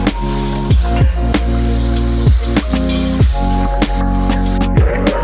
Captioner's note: potatoes sizzling